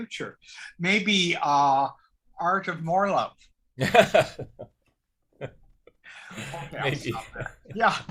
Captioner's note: laughs